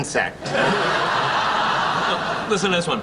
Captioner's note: laughing